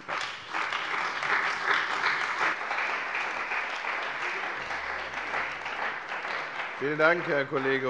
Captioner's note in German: Beifall bei der CDU und dem BÜNDNIS 90/DIE GRÜNEN